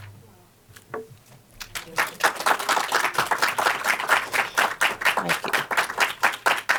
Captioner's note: audience clapping